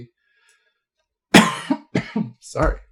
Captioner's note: coughs